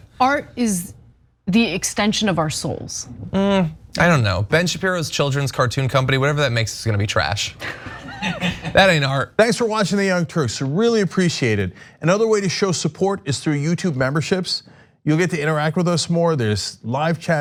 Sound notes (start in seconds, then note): 7.6 laugh